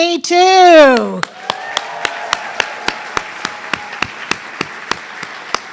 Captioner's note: everyone cheering